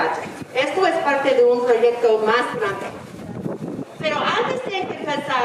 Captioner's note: speaking in foreign language